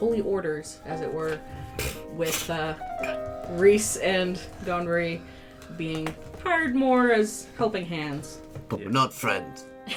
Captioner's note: scoffs; a deeper, vaguely posh accented voice for Lucretius